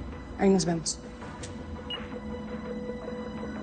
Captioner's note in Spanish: Pitido